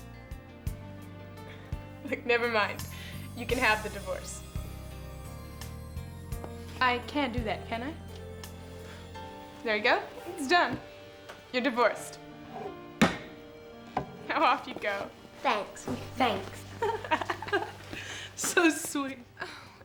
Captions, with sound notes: Look, never mind. You can have the divorce. I can do that, can't I? There you go, it's done. You're divorced. (gavel bangs) Now off you go. - Thanks. - Thanks. (laughing) - So sweet.